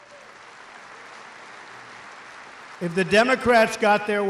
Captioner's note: applause